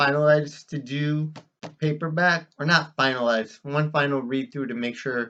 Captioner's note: claps hands once; tapping of paperback cover